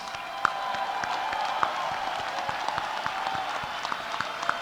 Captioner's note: audience cheering